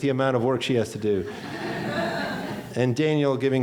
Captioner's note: laughing